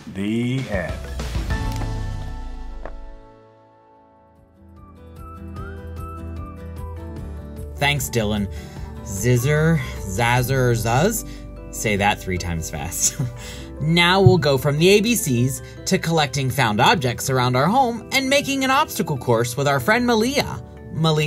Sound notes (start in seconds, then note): 4.9 upbeat music; 13.1 chuckling